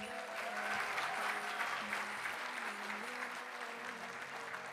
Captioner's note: audience applauding